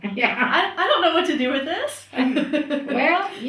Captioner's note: laughs